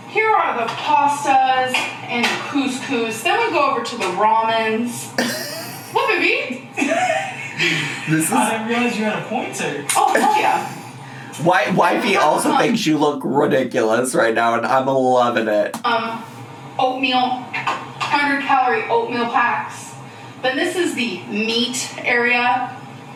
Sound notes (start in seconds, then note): 5.2 laughs